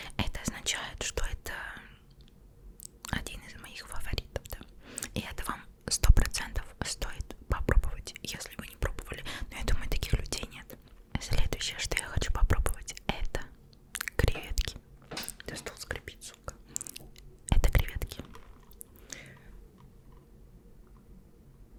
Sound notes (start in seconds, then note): 15.0 the table creaks